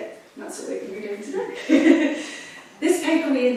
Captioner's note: laughs